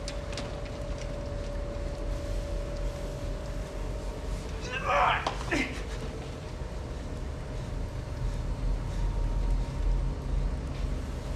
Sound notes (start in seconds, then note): 4.6 fighter grunting